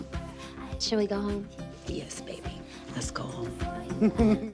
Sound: canned laughter

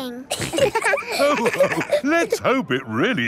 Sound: all laughing

